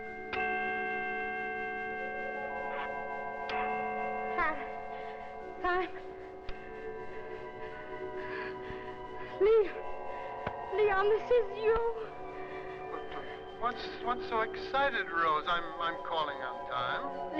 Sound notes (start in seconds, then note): 0.3 clock chime; 4.4 Rose, frantically